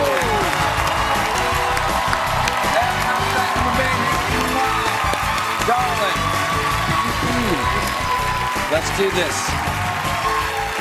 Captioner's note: cheers and applause